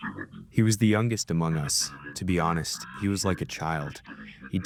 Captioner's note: through translator